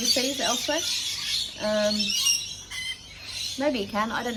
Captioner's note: very loud birds